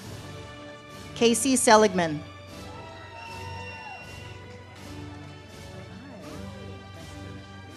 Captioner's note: audience cheers